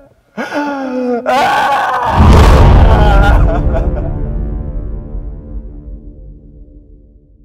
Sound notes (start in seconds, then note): 0.4 cries